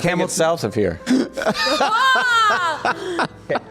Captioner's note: laughs